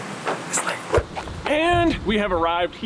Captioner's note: whooshing